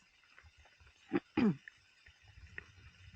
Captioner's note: clear throat